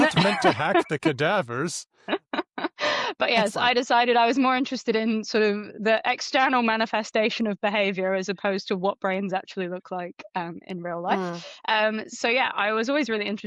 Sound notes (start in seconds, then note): 0.0 laughter; 3.3 laughs